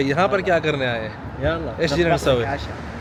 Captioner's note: Arabic